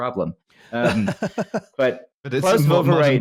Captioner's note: laughter